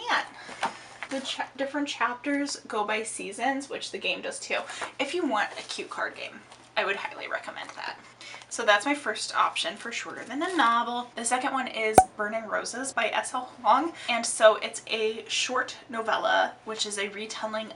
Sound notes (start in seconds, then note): none